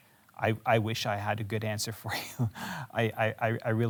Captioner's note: chuckles